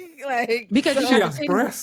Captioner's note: laughs